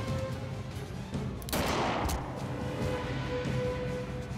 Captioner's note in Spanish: detonación de disparo